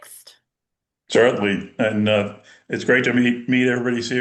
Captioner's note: American accent